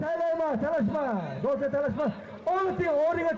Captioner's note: man speaking Uzbek over a microphone